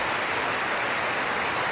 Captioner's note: applause